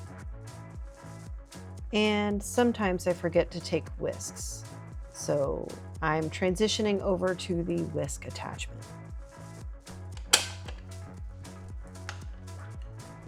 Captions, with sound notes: And sometimes I forget to take whisks, so I'm transitioning over to the whisk attachment. (clanking)